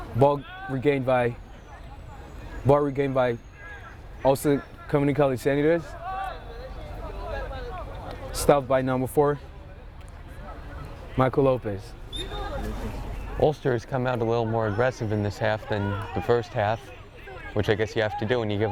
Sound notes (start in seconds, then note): 6.6 players shouting; 12.1 whistle tweeting